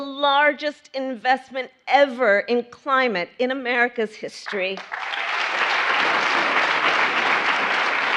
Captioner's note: applause